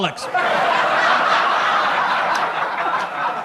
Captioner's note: audience laughs